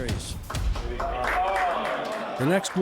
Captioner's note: group applauding